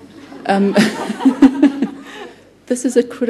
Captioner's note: laughter